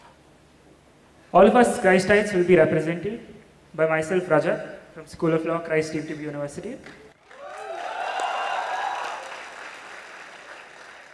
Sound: cheers

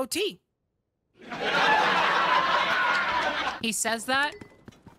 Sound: canned Applause

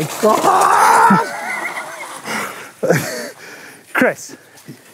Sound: laughter

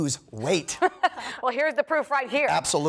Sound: laughter

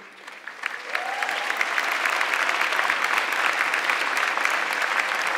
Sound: audience clapping

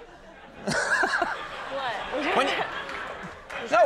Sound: audience laughs; laughs

